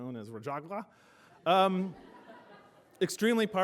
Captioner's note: laughter